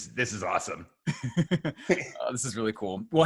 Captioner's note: laughs